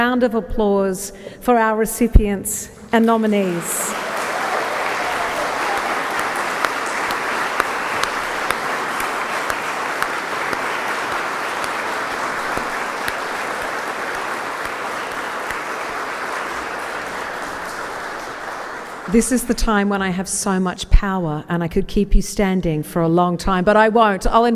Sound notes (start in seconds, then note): 10.1 applause